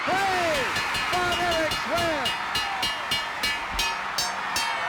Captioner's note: audience cheering; bell ringing